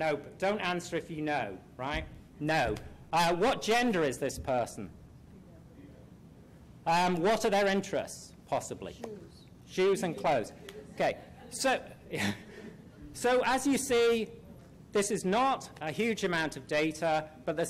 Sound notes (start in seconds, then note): 0.0 voiceover; 5.6 voiceover; 9.1 voiceover; 10.8 background chatter